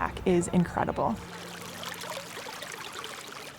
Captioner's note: stream babbles briskly